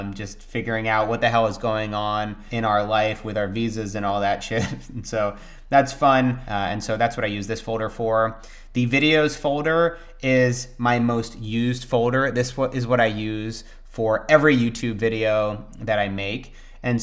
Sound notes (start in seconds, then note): 4.5 laughs